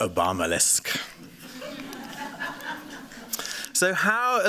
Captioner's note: laughter